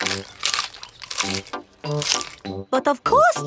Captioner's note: munching